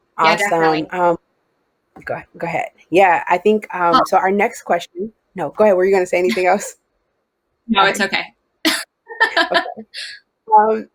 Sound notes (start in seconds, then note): 9.1 laughs